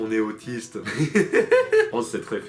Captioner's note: laughs